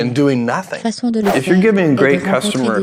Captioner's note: whoosh